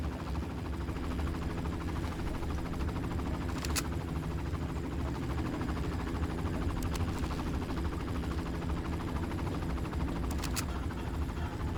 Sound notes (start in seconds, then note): 2.7 helicopter whirring